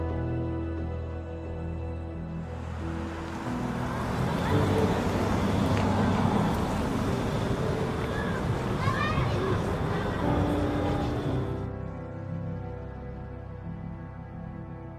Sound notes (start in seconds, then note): 3.3 traffic rustling; 8.7 kids chattering; 12.1 gentle music